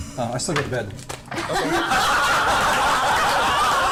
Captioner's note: laughter